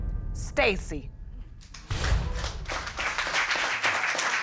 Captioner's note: audience applauding